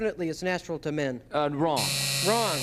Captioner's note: buzzer